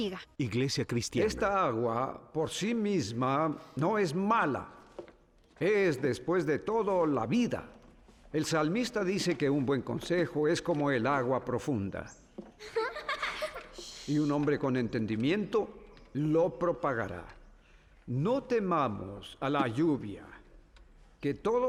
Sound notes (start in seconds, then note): 12.6 giggling